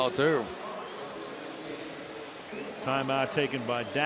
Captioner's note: pa announcement